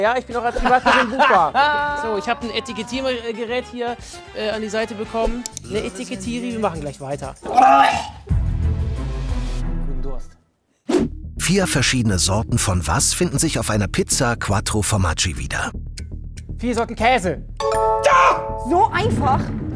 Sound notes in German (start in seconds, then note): 7.4 Würgen; 8.0 Spannungsvolle Musik